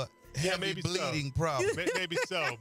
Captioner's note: more laughter